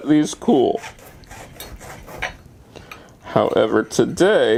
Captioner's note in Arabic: صوت قطع